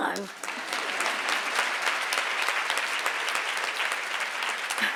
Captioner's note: audience applauds